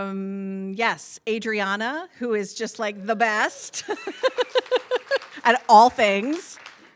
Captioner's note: laughs